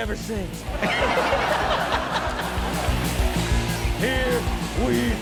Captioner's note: audience laughs